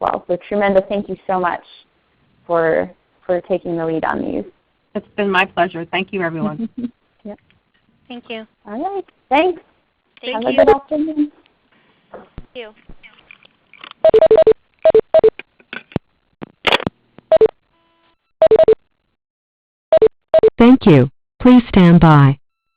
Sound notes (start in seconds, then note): 14.0 beeping